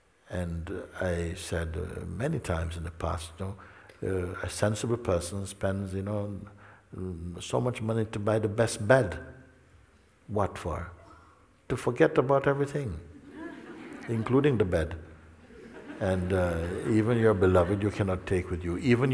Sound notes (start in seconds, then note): 15.3 laughter